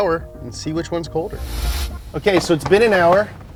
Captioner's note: transition whooshes; suspenseful music